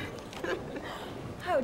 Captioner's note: Nia laughs